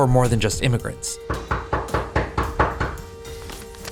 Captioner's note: knocking